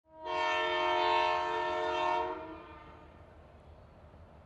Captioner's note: train engine blaring